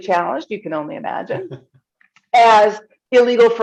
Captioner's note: chuckles